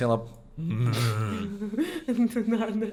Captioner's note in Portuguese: risadas